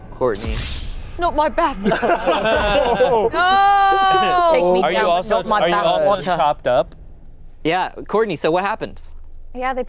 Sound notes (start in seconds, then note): 1.8 everyone laughing